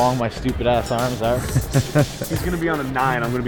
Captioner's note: laughter